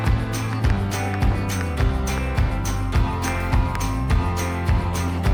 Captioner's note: upbeat music; drawing with chalk sounds